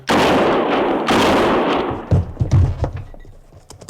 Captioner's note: gunshots